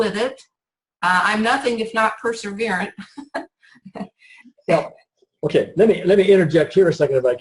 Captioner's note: laughs